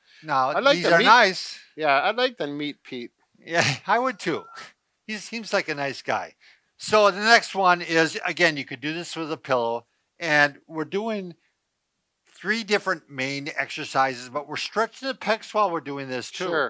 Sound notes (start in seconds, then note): 4.6 chuckles